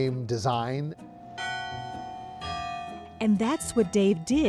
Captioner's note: bell chiming